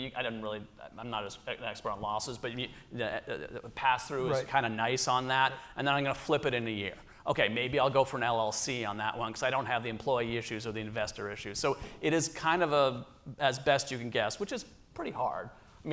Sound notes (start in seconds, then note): none